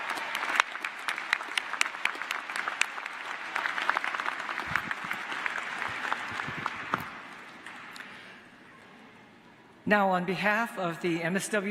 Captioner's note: applause